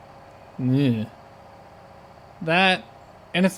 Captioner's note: discomfort sound